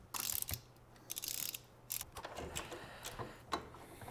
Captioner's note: ratchet clicking